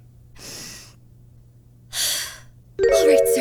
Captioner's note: deep breath